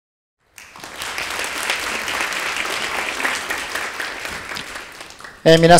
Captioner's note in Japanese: 拍手